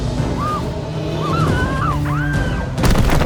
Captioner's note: Halle screaming